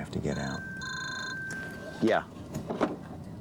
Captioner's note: ring tone